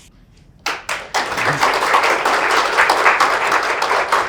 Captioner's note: attendees applauds